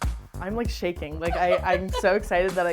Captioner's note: cheerful music continues; laughing